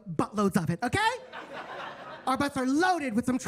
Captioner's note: attendees laughing